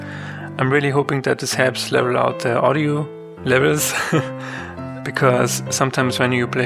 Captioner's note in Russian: смеётся